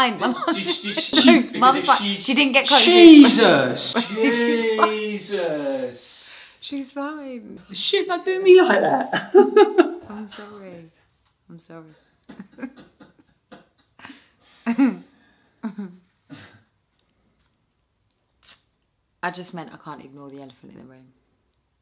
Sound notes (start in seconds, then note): 9.2 theo laughs nervously; 12.4 both chuckle